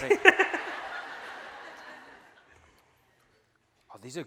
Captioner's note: laughing